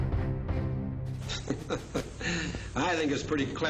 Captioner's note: chuckles